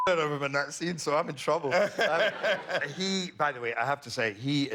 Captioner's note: laughter